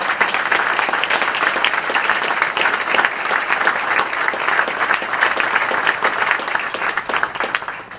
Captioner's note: applause